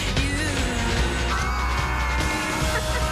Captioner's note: screaming; laughter